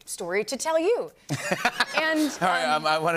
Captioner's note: laughter